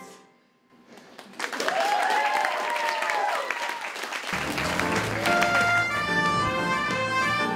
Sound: audience cheering

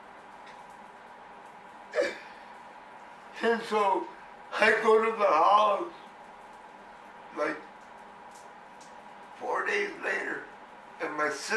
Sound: inhales sharply

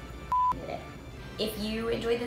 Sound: beep

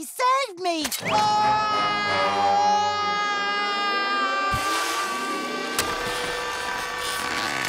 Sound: screaming

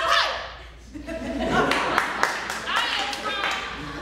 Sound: audience laughing

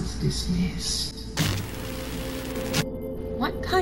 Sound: distorted Scene Change

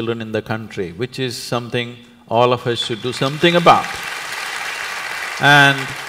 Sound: applause

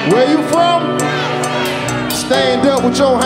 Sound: audience shouting

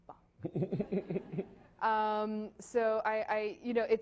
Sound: laughing

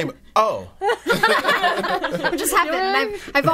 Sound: all laughing

